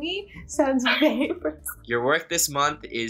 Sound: laughs

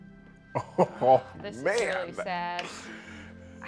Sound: laughs

